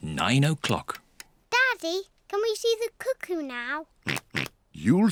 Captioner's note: oinks